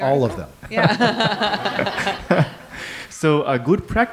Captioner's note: laughter